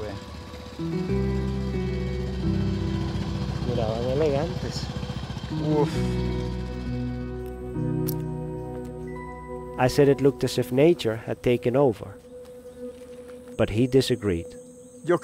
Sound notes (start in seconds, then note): 1.6 soft instrumental music; 3.8 speaking in foreign language; 15.0 speaking in foreign language